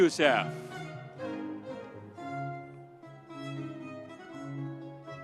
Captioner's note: audience cheering; light music continues